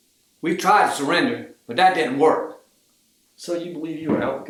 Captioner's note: none